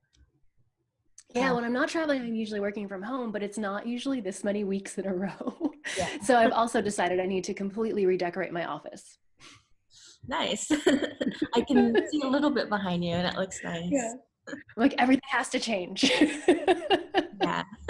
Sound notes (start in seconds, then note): 10.6 laughs; 16.1 laughs